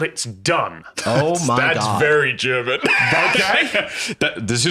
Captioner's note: laughing